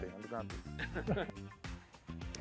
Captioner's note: chuckles